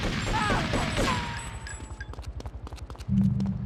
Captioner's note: gun firing